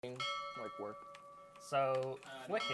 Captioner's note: bell ringing